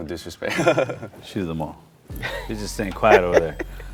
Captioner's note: laughs